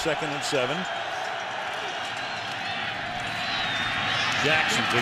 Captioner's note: cheering